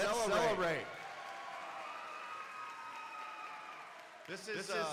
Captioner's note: crowd cheering and applauding